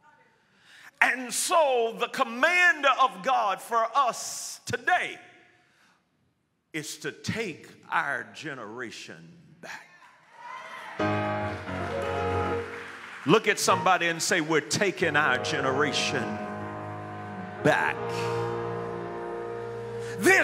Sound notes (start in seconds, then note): 10.2 audience clamors; 11.7 piano plays